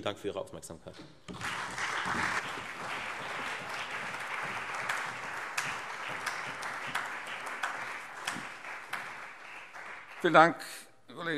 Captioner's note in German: Beifall Freie Demokraten, CDU, BÜNDNIS 90/DIE GRÜNEN, SPD und AfD